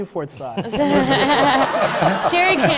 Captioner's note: laughter